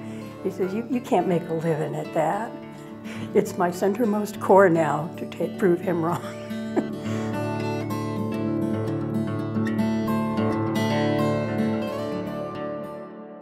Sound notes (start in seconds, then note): 6.2 laughs; 6.8 gentle guitar music